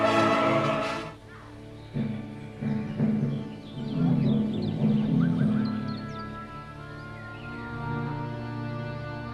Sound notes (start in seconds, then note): 0.7 birds chirping; 2.2 somber music